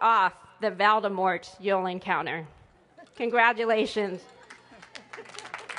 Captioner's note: applause